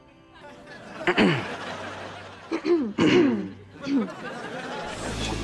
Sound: clearing throat

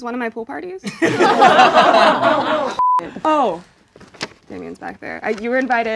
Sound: beeping

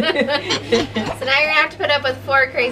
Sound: laughs

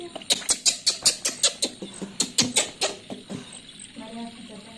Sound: angry monkey noises

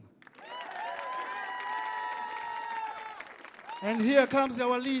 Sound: audience cheering

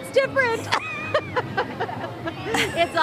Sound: laughter

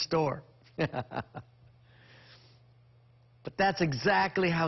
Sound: chuckles

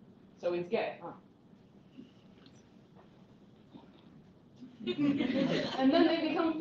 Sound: laughter

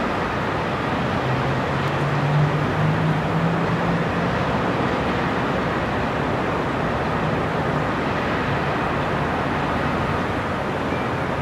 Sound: sound of distant cars and city noises; city sounds and distant cars

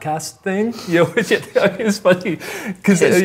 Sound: both chuckling

